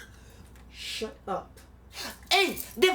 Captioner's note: coughs